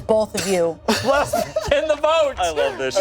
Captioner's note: laughs